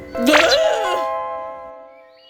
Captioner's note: startled yelp